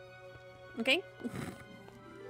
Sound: snorts

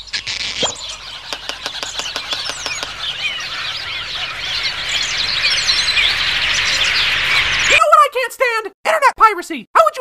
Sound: twitching and tapping sound effects, birds that progressively grow louder; shouting, speaking quickly

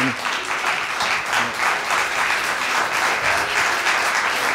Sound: applause

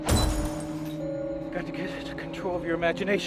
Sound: shattering

